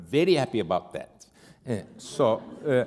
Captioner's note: laughter